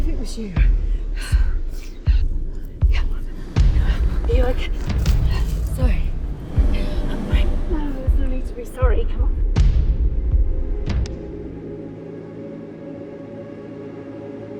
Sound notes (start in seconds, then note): 3.2 all gasping; 11.8 gentle music